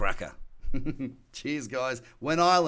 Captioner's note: laughs